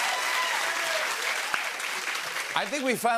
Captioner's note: cheers and applause